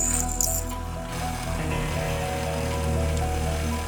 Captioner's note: drilling